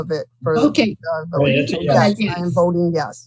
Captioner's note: chattering